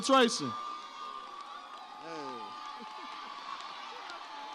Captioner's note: audience cheers